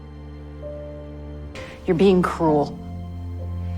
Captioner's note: voiceover